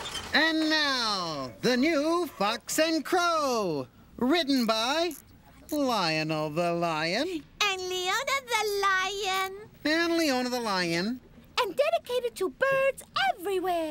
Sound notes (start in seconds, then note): none